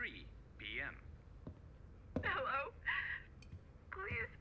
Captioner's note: Sandra weeping